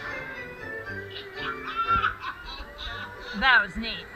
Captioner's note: Dwarf laughs